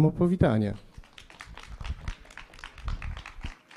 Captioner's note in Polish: oklaski